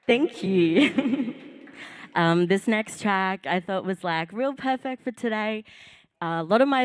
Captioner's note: applause